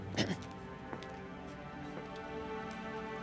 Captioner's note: clears throat